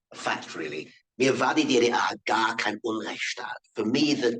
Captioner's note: man speaking in foreign language